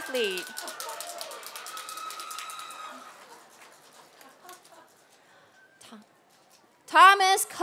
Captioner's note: applause